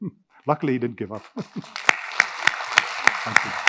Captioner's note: audience applauding